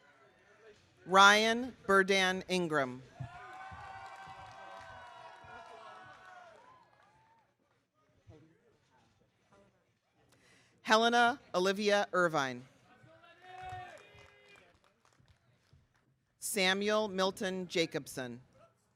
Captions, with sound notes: Ryan Berdan Ingram. (audience cheering) Helena Olivia Irvine. Samuel Milton Jacobson.